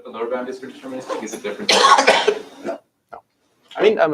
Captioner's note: cough